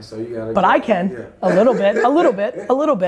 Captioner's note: laughs